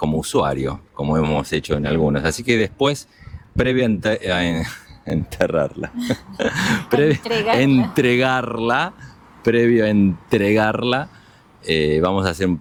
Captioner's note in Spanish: risas